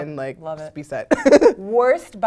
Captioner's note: laugh